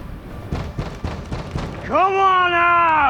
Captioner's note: loud knocking